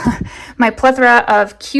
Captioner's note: chuckling